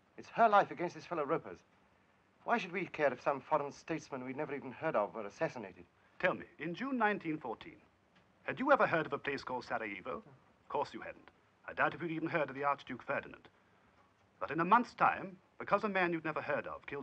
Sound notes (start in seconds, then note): none